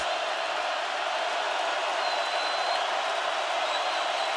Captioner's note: crowd roaring